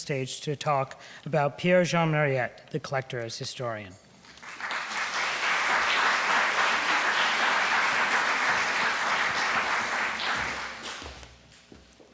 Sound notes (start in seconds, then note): 4.2 audience clapping